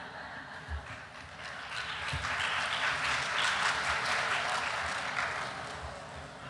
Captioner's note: applause